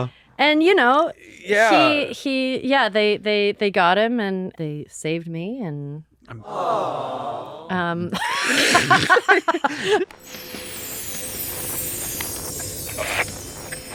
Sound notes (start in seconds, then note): 6.4 awws; 8.1 laughing